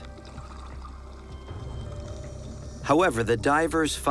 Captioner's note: breathing apparatus hissing